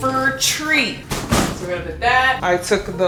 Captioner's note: tree thuds